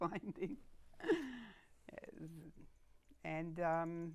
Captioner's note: laughing